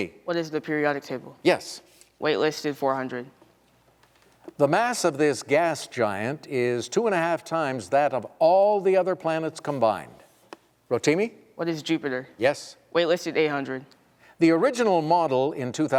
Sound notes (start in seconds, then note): none